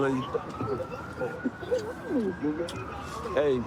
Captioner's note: kissing noises